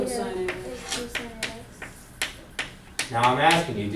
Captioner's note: voiceover